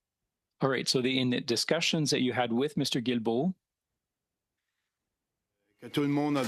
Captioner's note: speaking French